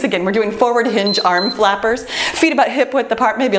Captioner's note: timer beeps